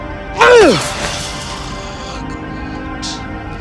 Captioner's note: Dan shouts